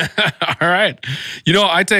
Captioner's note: laughs